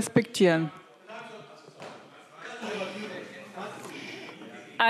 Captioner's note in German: Zurufe AfD